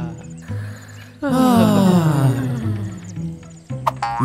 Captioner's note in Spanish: todos suspirando